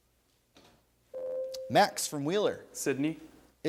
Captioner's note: ding